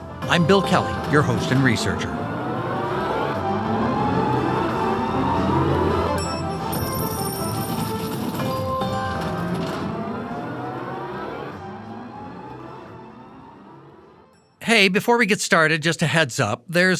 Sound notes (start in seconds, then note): 2.5 suspenseful music; 6.1 slot machine dinging; 6.8 coins clattering